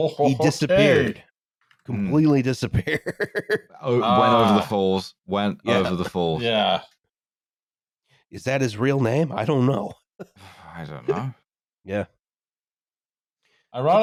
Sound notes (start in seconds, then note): 2.8 laughs